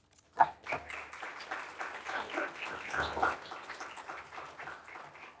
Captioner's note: audience clapping